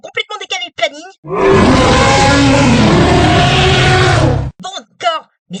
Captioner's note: growl louder